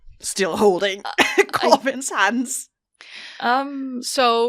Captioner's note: laughing